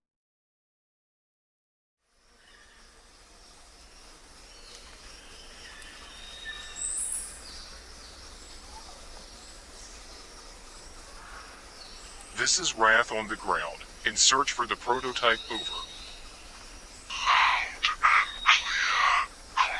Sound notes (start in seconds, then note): 2.2 birds chirping; 2.2 crickets chirping